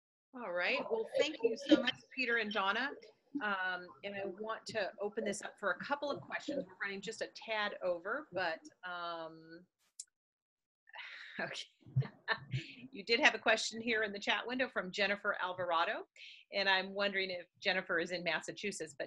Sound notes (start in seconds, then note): 11.6 chuckles